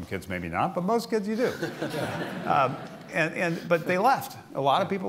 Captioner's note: laughter